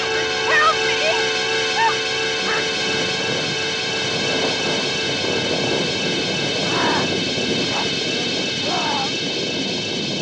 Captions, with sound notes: Help me! Help! [ THUNDER RUMBLING ] [ GHOUL GROWLING ]